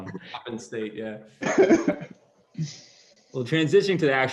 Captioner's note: laughter